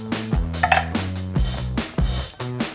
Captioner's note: knife clanking; upbeat music